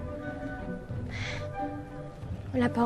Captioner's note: sighs